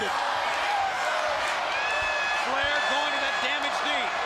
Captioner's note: crowd cheering